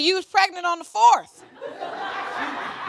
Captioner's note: audience laughing